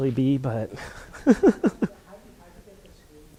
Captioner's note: laughs